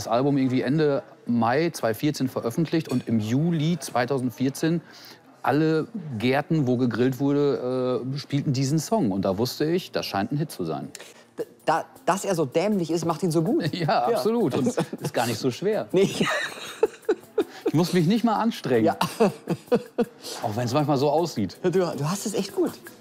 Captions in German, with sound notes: ich hab das Album irgendwie Ende Mai 2014 veröffentlicht. Und im Juli 2014, alle Gärten, wo gegrillt wurde, spielten den Song. Und da wusste ich, das scheint ein Hit zu sein. Dass er so dämlich ist, macht ihn so gut. Ja, absolut. Das ist gar nicht so schwer. Nee. (Sie lachen.) Ich muss mich nicht mal anstrengen. Auch wenn's manchmal so aussieht. - Du hast es echt gut.